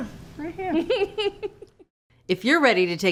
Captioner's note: laughs